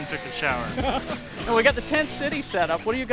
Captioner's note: laughs